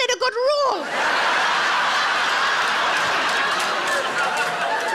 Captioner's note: audience laughing